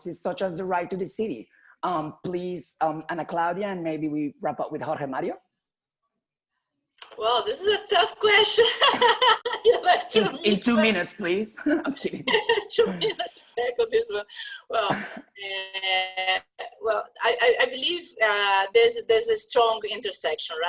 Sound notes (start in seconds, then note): 8.1 laugh; 12.2 laugh